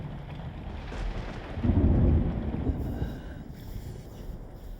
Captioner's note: thunder booming